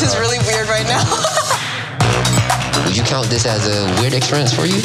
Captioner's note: laugh